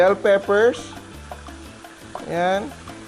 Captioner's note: sizzle